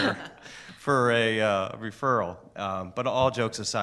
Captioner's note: laughing